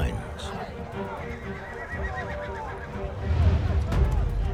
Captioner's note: horses neigh